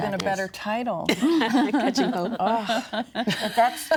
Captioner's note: both laughing